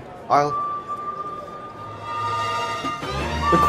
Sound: Edward's whistle in distance

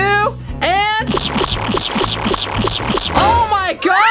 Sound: loud splattering

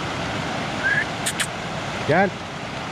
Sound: whistles to call dog

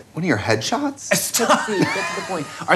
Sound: laughing

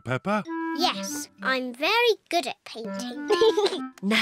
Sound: giggles

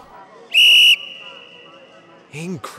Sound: blows whistle

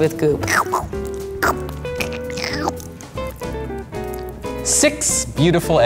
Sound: makes squirting noise

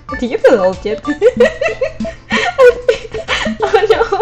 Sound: laughs

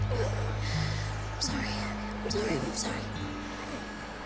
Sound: TJ groans

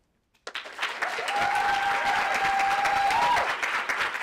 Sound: audience applauding

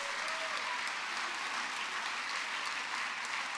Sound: applause

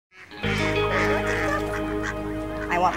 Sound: ducks quacking; gentle music

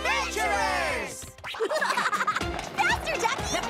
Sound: laughing

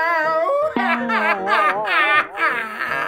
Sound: crying

